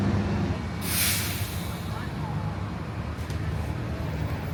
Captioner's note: brakes hiss